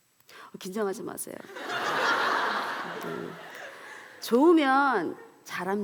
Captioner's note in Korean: 웃음